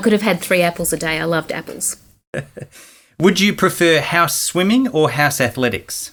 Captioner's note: laughing